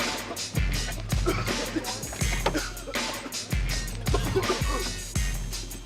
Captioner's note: passengers coughing